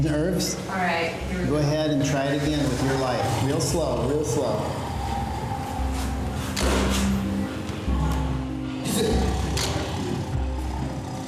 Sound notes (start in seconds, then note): 5.3 camera clicking; 7.9 tiger growling